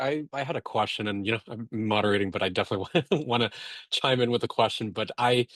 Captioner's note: chuckles